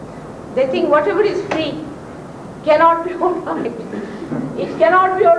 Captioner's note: laughs